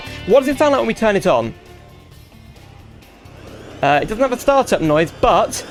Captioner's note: silence, followed by whooshing jet noise